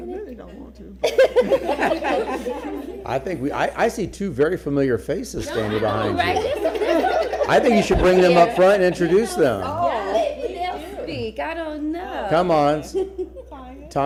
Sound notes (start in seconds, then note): 5.4 laughter